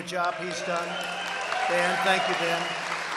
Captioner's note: applause